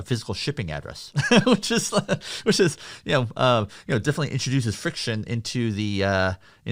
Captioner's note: laughs